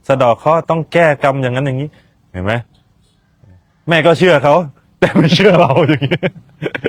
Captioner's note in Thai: เสียงหัวเราะ